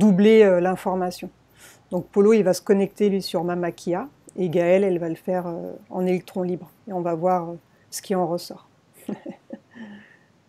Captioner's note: laughs